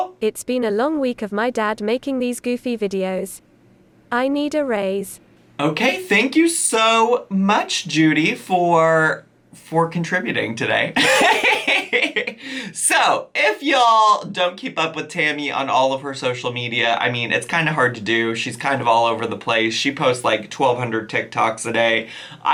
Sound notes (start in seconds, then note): 11.0 laughs